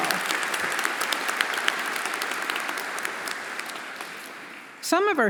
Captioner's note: everyone applauding